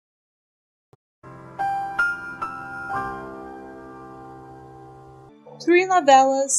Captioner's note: the more you know sound